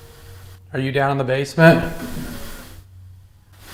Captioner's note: knocks